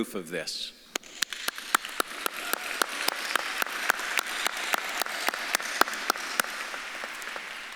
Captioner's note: audience claps and cheers; claps